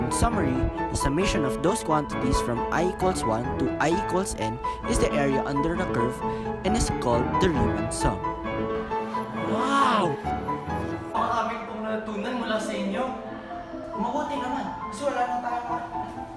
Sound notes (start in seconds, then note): 8.6 reversed wo00OO0aoOw